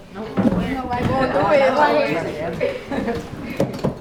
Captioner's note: crowd talking